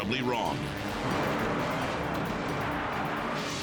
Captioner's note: airplane crashing